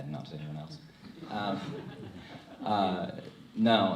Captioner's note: crowd laughs